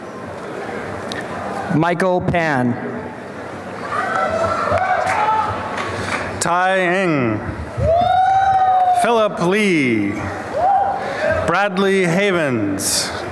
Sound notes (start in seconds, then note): 4.0 applause; 8.3 applause and cheering